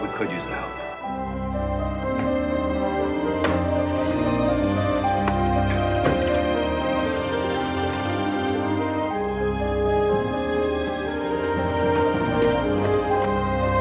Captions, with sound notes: We could use the help. (suspenseful music) (drawers banging)